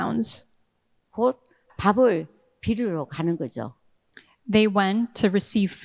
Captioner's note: speaking in foreign language